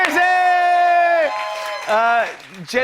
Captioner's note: cheers and applause